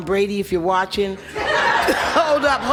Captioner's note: spectators laugh